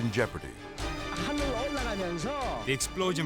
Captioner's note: speaking Korean